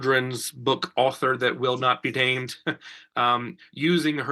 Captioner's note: chuckles